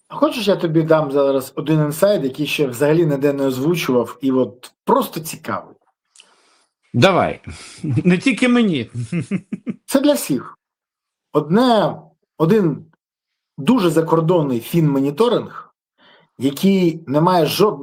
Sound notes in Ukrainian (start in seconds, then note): 8.8 сміх